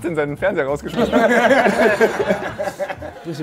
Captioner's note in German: Lachen